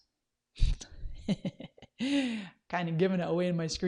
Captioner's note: laughs